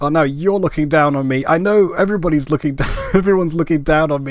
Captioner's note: laugh